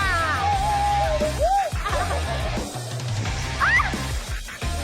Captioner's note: group whooping